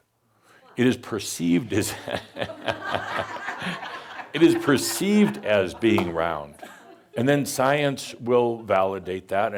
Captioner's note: laughter